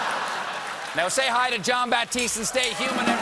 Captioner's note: laughter